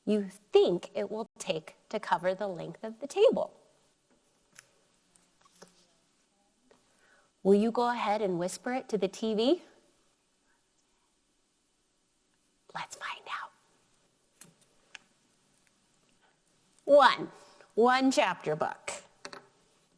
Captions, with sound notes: you think it will be take to cover the length of the table. Will you go ahead and whisper it to the TV? (whispering) Let's find out. One, one chapter book.